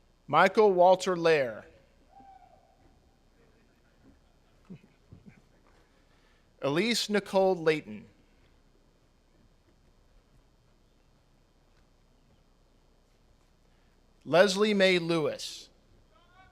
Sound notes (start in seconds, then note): 3.5 audience laughs; 3.8 chuckles